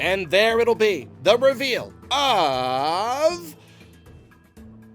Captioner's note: sigh